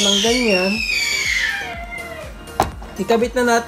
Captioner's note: baby shouting